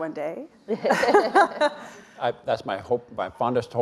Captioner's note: all laughing